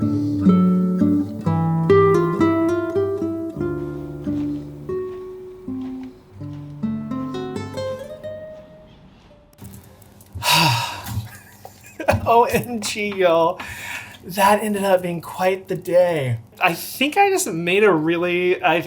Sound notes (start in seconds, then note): 10.4 sighs; 11.0 laughs